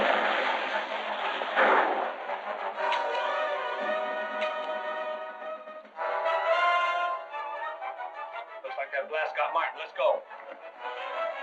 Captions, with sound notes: - [gunshot] - [gun clicks] [gun clicks] Looks like that blast got Martin, let's go.